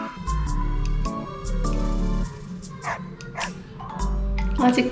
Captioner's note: ㅋㅋ